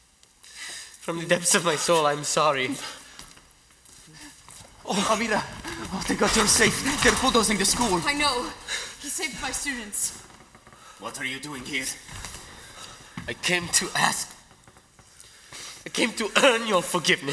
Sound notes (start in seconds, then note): none